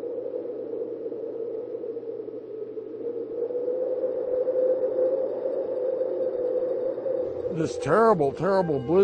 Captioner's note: wind whistles